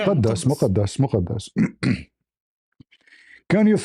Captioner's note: clears throat